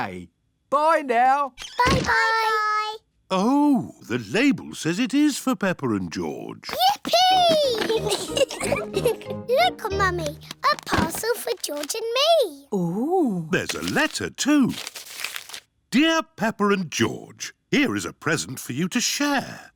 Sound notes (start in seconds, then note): 7.2 giggles